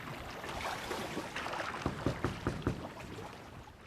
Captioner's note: knocking